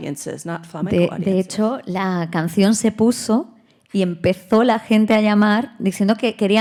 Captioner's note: speaking in Spanish